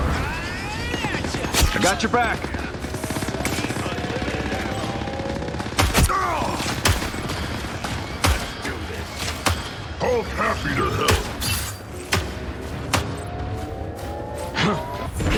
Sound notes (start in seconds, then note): 3.4 guns firing; 6.0 game character grunts; 8.2 guns firing continues